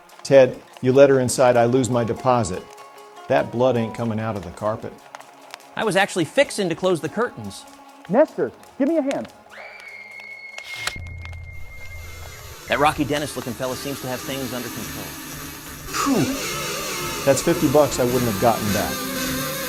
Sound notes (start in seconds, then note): 9.5 woman screams